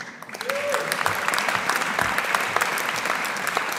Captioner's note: audience applauding